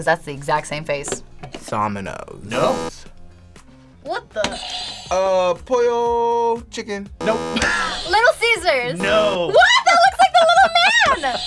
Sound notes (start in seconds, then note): 2.6 buzzer; 2.6 buzzer rings; 7.2 buzzer rings; 7.5 laughs; 9.0 buzzer